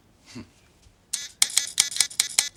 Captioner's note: beeps